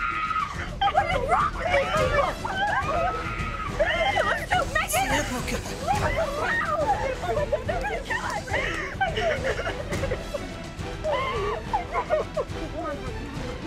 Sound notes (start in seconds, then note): 0.0 screaming; 3.2 screaming; 10.9 sobbing